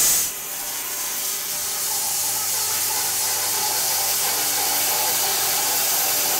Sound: saw blade whirring continues

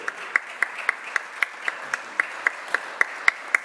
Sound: applause

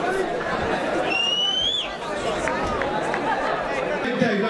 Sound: whistling

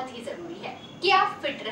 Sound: hindi

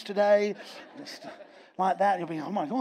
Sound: audience laughs

